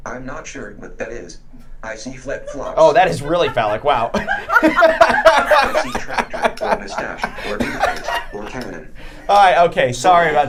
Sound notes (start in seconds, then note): 4.2 group laughing